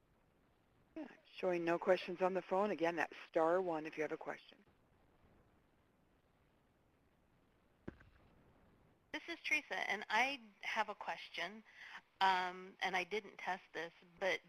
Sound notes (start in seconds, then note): 5.4 pause